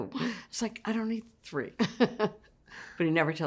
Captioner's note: laughs